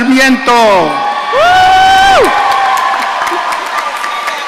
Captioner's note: audience cheering